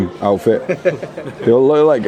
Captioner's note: friends laugh